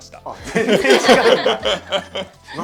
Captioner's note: laughs